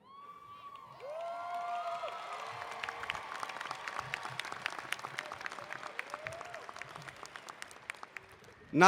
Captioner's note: applause